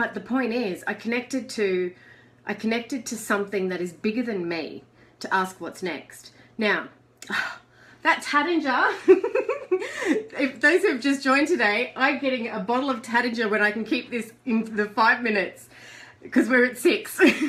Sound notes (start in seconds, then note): 7.3 exhales; 9.0 laughs